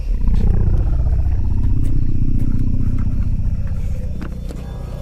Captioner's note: air quavering